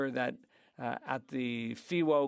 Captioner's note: speaking French